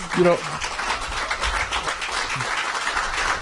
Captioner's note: applause